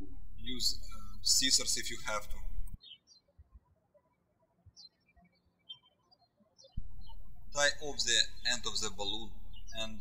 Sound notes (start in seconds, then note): 3.7 birds chirping